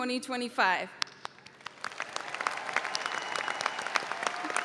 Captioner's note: audience applauds